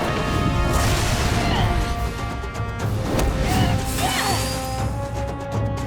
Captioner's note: grunting